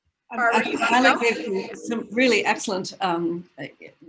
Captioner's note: audio crackles